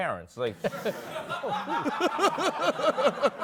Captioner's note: laughter